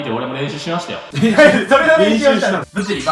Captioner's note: laugh